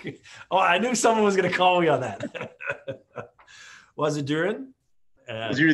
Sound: laughs

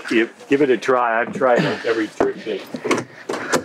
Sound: voice muffled

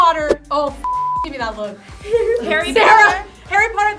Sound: beep

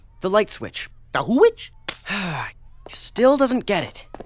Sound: sighs

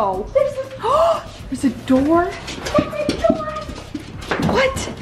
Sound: gasps

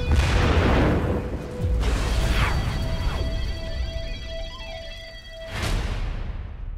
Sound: explosions; energetic rock music

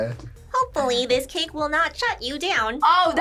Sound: PvF, as GLaDOS

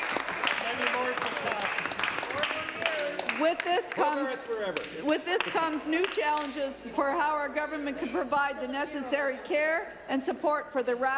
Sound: applause

